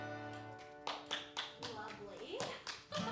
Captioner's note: applauding; laughing